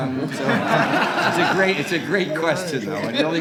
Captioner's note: laughter